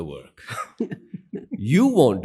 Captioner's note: laughs